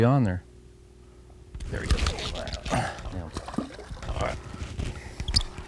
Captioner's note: reel noise